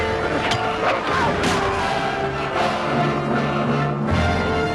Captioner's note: villager screams